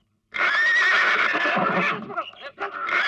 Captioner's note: horse neighing